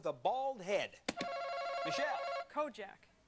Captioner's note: alarm rings